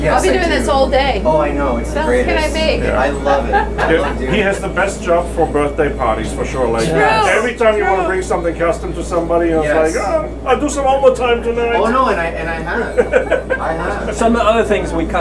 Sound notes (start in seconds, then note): 3.3 laughing; 12.6 laughing